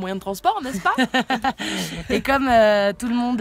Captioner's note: laughs